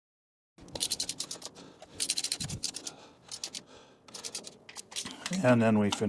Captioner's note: ratchet Noises